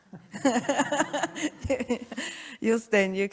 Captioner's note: laughter